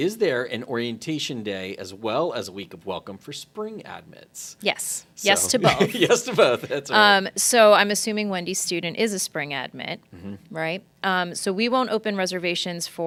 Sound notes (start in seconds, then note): 5.4 laughing